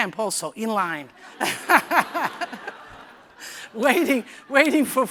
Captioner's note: laughter